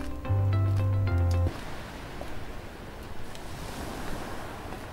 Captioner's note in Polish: chodzenie po moście